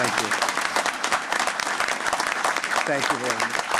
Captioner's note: applause